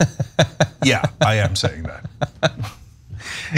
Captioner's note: laugh